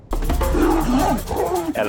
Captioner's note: roaring